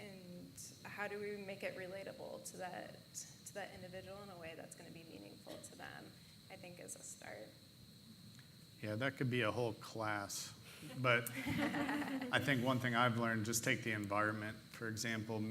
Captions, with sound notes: and how do we make it relatable to that individual in the way that's gonna be meaningful to them I think is a start. - Yeah, and that could be a whole class, but (laughing) I think one thing I've learned, just take the environment for example.